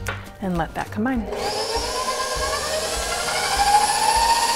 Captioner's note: whirring